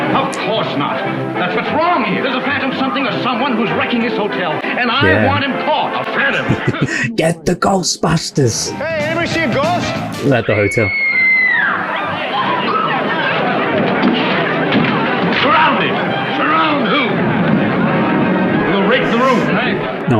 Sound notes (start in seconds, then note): 10.9 woman screaming